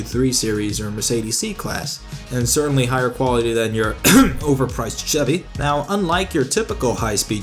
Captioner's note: cough